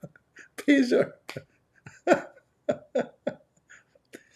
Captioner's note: Ketawa